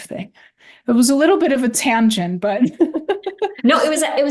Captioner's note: laughs